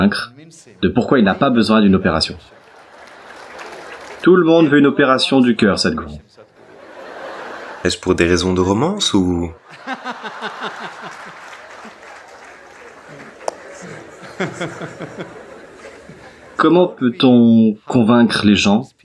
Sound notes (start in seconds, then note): 9.6 laughs; 13.3 applause